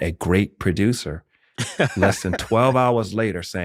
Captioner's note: laughter